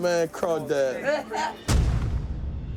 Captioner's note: laughs